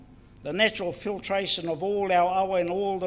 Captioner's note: foreign Language